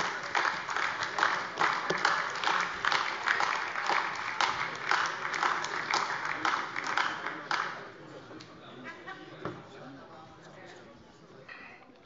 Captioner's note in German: Beifall AfD